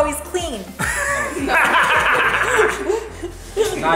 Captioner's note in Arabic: يضحك